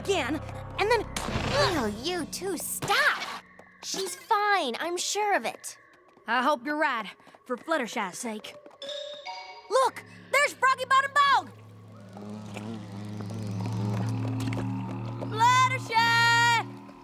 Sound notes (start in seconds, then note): 0.3 creak!; 11.4 buzzing